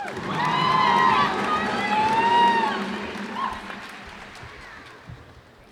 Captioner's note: cheers and applause